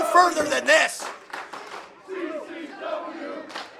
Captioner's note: crowd chanting